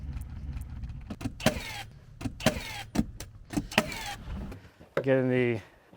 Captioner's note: nail gun clicking